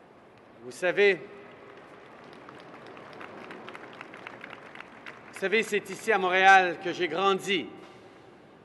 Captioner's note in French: Applaudissements